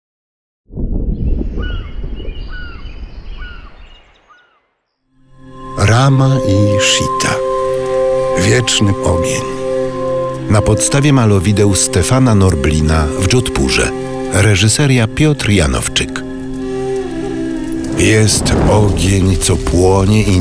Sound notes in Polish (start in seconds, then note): 0.9 śpiew ptaków; 5.5 ambientowa muzyka; 17.8 odgłos palącego się ognia